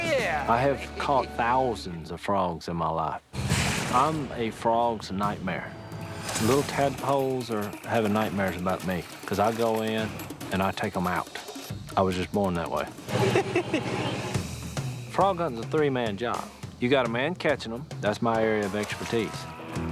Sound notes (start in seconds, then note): 13.1 laughter